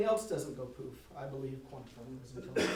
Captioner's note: voice drowned by cough